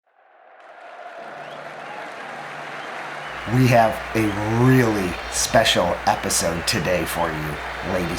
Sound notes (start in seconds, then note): 0.1 cheering, whistling, and clapping